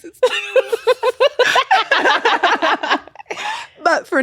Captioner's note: both laughing